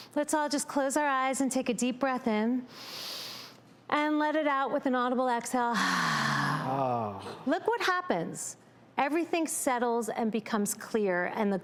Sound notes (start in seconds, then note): 2.7 inhales; 5.7 exhales